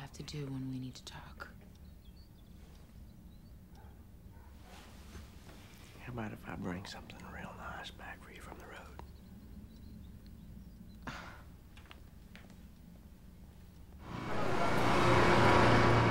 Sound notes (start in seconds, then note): 10.8 scoffs